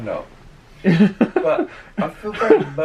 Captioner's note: laughs